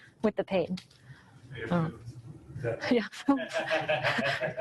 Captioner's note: audience member speaks from a distance; audience laughing